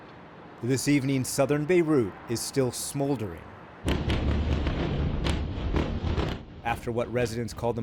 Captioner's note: voice-over